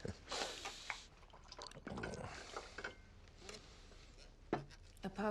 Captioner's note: wine sloshing